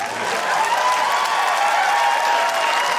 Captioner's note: cheering, applause